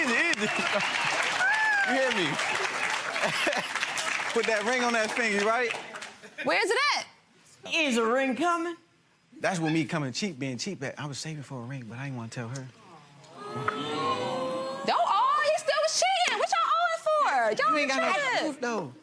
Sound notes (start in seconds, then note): 2.0 gallery laughs and applauds; 3.0 laughs; 13.2 audience awws